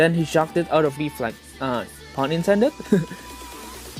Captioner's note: giggles